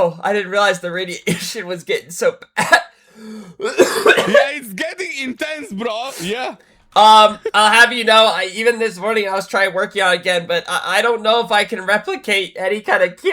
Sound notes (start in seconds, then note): 3.6 clears throat